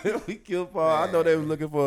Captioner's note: laughing; laughs